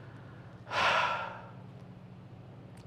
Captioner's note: sighs